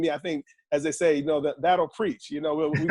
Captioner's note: laughing